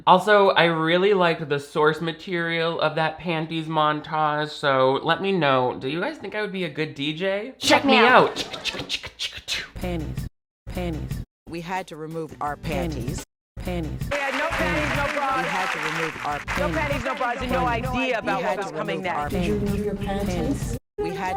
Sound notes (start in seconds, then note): 7.6 beatboxing